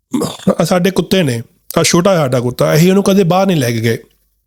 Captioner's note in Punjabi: ਗਲਾ ਸਾਫ਼ ਕਰਨ ਦੀ ਅਵਾਜ਼